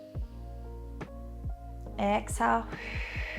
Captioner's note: exhales